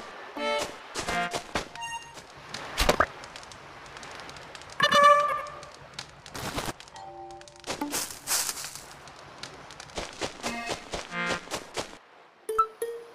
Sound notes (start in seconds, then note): 7.3 footsteps